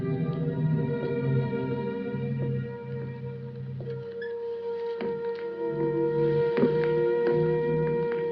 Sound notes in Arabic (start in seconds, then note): 0.0 تشغيل موسيقى غريب; 3.6 خطوات